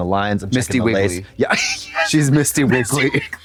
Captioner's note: Katya tee-hees